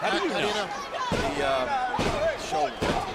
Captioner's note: foot pounding